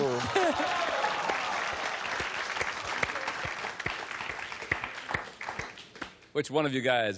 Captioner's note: clapping